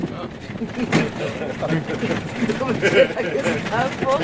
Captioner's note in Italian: risate